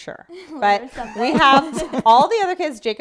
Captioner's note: laughing